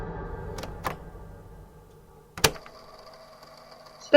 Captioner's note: click